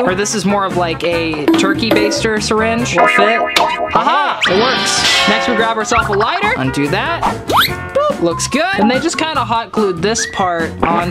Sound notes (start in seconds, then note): 3.8 metal snaps